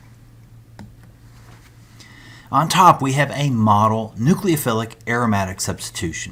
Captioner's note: turn page